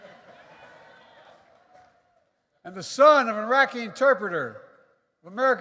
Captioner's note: applause